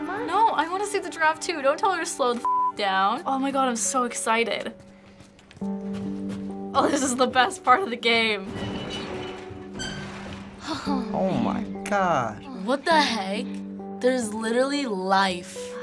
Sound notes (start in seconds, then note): 8.4 door creaks